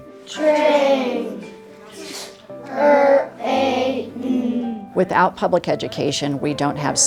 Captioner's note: students talking in class